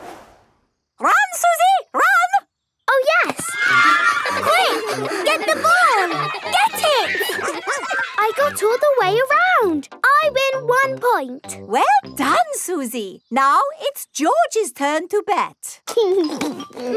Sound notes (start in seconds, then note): 3.3 excited cheering